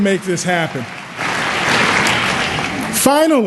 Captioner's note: applause